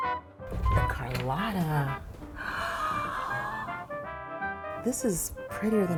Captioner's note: gasps